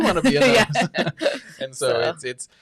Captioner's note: laughs